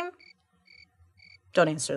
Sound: crickets chirping

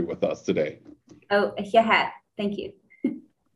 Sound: foreign language

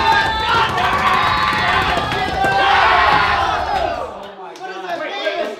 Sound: banging; group cheering

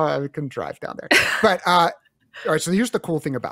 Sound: laughs

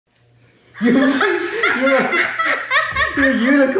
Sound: both laughing

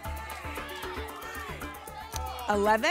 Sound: audience shouting numbers

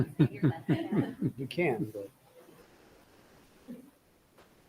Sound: people chuckling

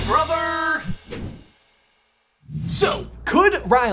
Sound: logo whooshes

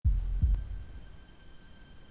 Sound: heartbeat

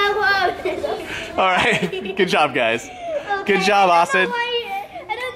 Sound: laughing

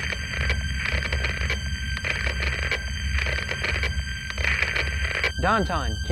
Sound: radio static

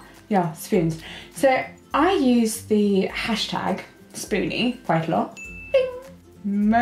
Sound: ping

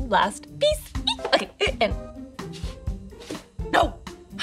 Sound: squeals

